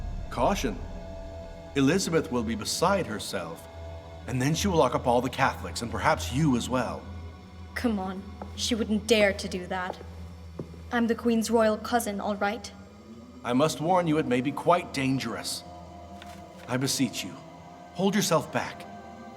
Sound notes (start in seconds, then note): none